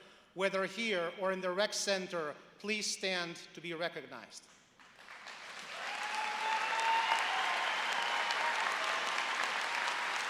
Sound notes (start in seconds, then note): 4.7 applause